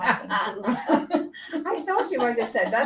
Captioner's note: laughter